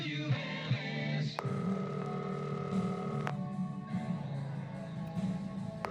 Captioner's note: phone ringing